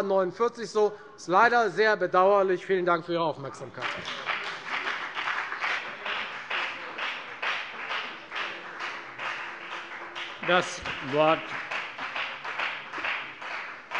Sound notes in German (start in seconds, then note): 3.7 Lebhafter Beifall bei der FDP